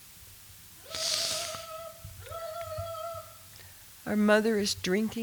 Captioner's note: trilling